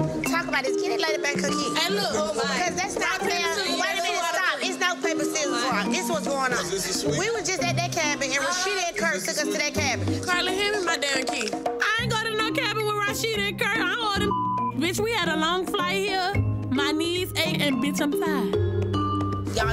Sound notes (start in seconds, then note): 3.3 shouting; 14.2 beep